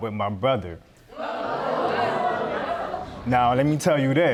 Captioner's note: audience gasp